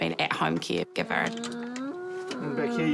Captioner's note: grumbles